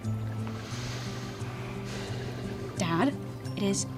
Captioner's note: sighs